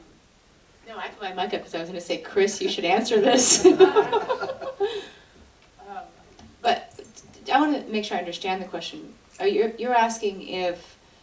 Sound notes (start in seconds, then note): 2.6 laughs